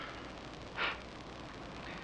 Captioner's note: scoffs